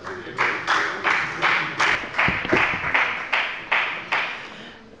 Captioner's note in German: Beifall bei der FDP